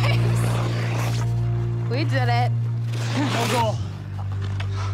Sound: sighs

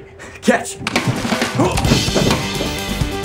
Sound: groaning

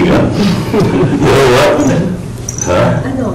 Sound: Eric and Ester chuckle

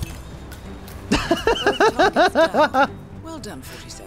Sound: laughs

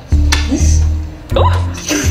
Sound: slaps

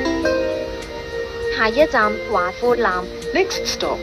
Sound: Cantonese

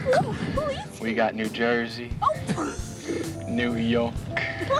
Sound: snorts

